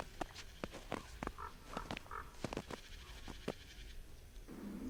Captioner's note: odgłos chodzenia po śniegu, krakanie kruka